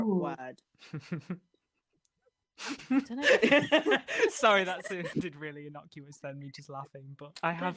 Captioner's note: laughter